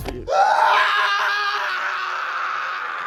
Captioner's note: screaming